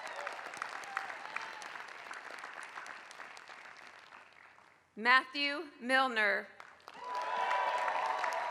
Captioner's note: applause; applause